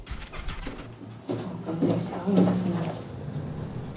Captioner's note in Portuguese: falando ao fundo